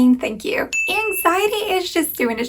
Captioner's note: bell pinging